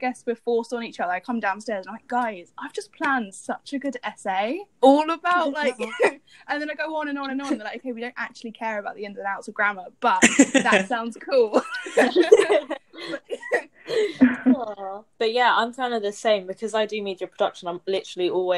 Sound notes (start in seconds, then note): 11.5 laughter